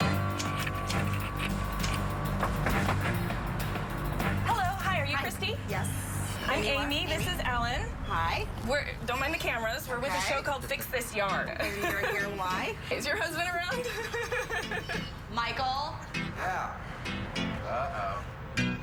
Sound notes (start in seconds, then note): 3.6 knock at door; 15.4 laughs